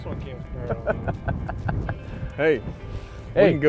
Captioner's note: laughing